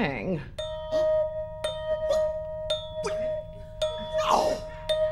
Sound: repeating chimes

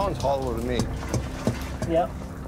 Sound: thudding

